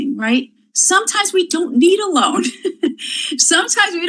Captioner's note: laughs